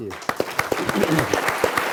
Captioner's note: clapping